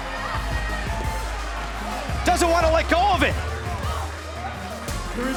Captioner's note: bell ringing